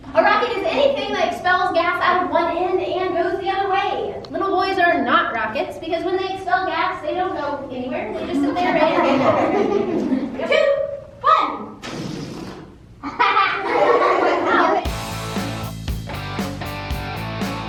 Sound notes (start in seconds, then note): 9.7 laughing; 13.0 laughing; 14.8 lively music